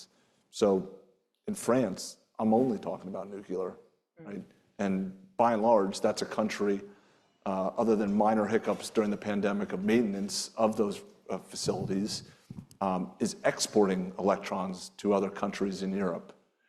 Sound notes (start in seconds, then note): none